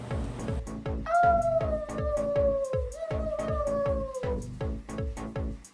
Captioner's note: howls in Portuguese